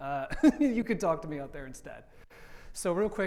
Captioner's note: laughs